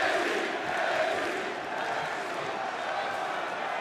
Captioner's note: crowd cheering